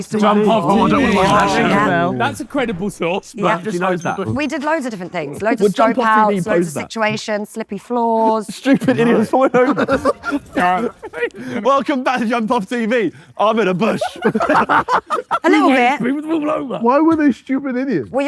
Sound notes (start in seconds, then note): 13.7 group laughing